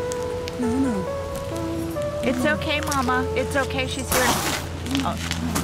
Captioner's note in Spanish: Hiss